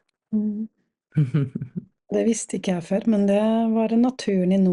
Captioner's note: laughs